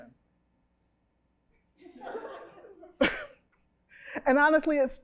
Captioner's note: chuckles